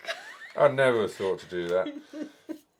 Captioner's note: laughs